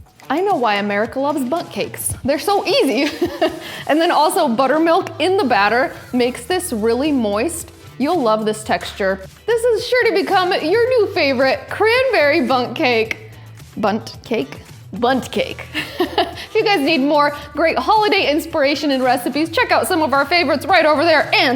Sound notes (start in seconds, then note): 15.7 laughs